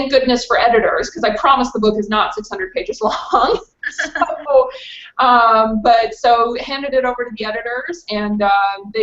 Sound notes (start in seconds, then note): 3.0 laughs